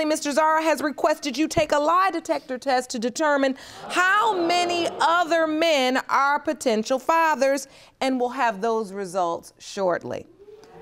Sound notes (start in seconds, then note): 3.6 audience gasps